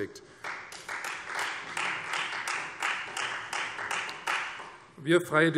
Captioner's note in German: Beifall Freie Demokraten